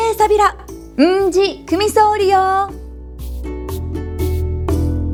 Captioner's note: in Okinawan